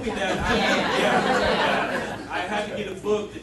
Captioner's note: audience laughing